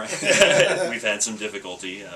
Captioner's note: both laugh